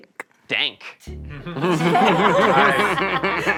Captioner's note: all laughing